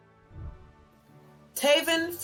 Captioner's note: whooshing